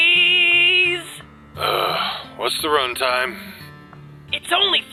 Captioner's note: grumble